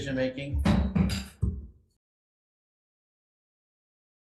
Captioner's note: gavel slamming